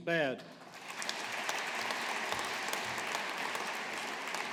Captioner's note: audience applauding